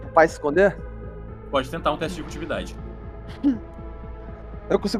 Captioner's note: laughs